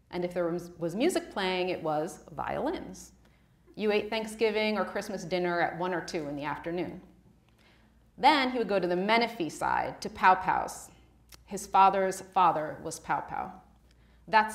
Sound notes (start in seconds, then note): none